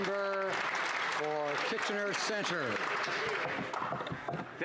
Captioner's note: some Applause